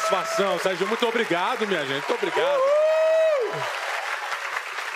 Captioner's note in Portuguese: aplausos